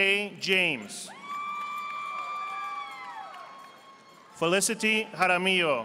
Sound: audience applauding

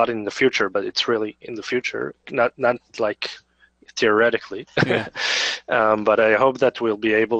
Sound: chuckles

